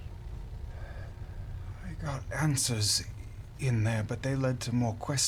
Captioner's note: hoarsely